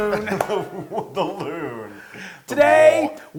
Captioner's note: laugh